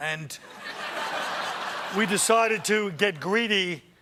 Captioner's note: laughter